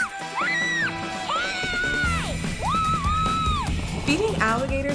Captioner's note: screaming